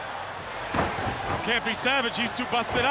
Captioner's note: blows thudding